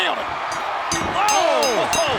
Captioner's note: bell ringing